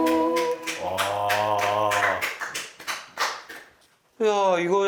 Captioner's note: applause in awe